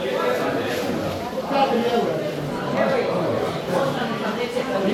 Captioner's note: people Speaking